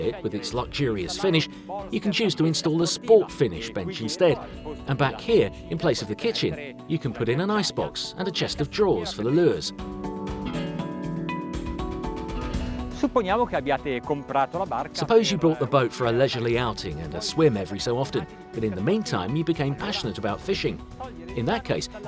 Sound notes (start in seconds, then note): 13.1 speaking Italian